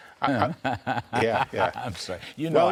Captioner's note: laughter